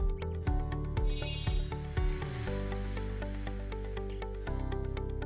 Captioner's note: chimes tinkling